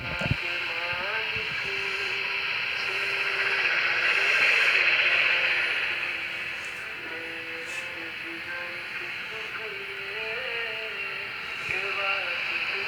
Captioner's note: static and music sung in another language